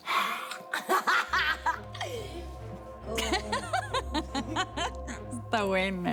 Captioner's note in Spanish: Risas